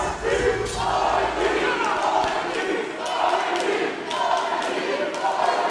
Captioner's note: crowd